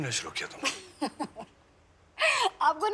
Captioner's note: Laughing